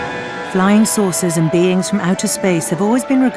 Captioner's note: voiceover